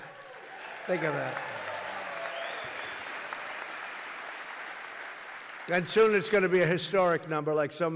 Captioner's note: applause